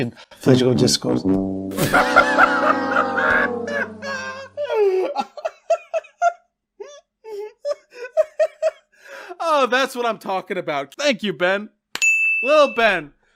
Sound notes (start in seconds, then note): 1.7 bursts out laughing